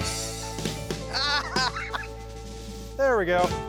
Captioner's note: laughter